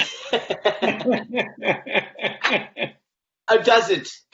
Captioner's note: laughter